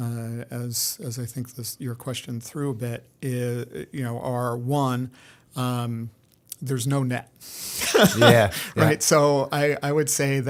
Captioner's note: laughter